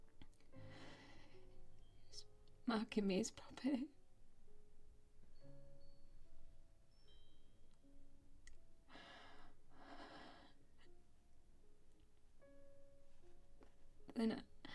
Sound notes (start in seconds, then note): 4.7 soft haunting piano music continues; 8.9 Grace continues breathing heavily